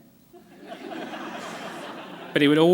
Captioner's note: laughter